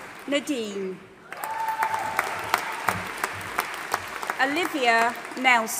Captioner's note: audience applauding and cheering